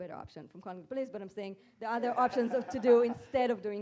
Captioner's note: guest laughing